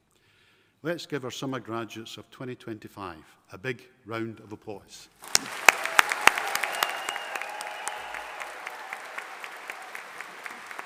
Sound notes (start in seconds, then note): 5.2 audience applauding